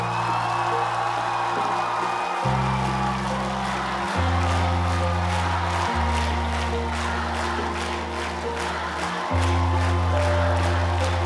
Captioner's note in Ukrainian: оплески